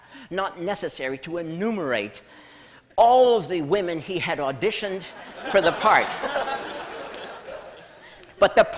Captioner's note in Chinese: 笑聲